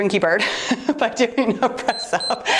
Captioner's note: timer beeps